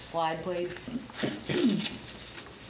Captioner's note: clears throat